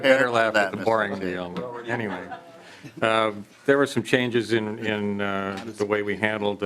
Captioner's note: laughing